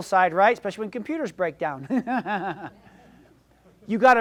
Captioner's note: laughs